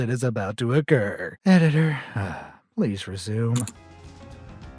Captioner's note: sighs, exasperated